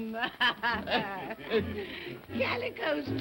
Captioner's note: all chuckling